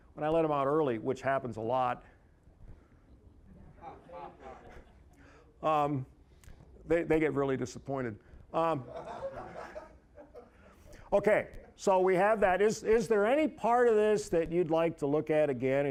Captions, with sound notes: when I let them out early, which happens a lot-- (audience chuckling) they get really disappointed. (audience laughing) Okay, so we have that. Is there any part of this that you'd like to look at again